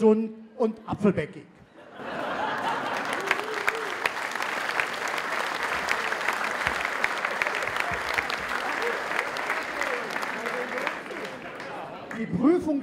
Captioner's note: applause